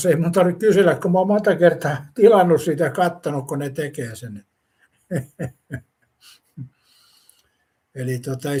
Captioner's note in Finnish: naurua